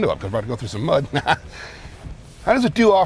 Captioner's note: laughs